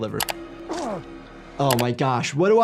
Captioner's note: Joel grunts